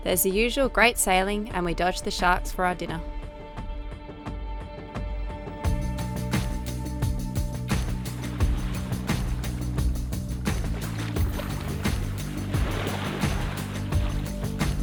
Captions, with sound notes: There's the usual great sailing and we dodge the sharks for our dinner. (upbeat music) (water splashing)